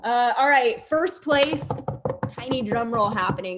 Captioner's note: drumming on the desk